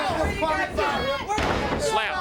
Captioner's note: crowd cheering